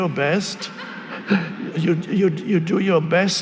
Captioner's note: audience laughing